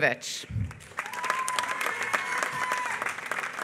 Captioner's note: applause